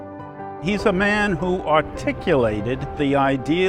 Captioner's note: voiceover